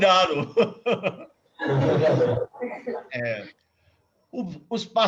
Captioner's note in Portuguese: risos